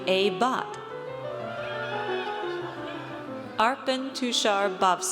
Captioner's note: audience cheers